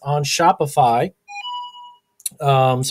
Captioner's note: chiming